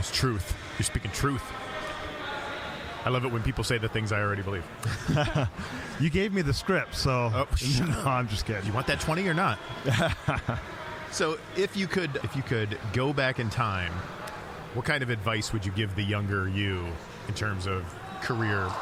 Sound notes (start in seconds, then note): 4.8 both chuckling; 7.6 whispering; 9.8 laughing